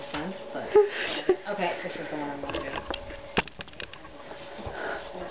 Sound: tripod noise

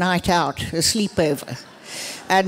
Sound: laughter

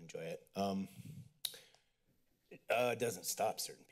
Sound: clicks tongue

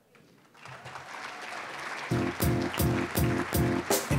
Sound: applause

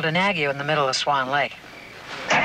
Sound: engine starts

